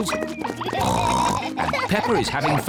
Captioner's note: oinks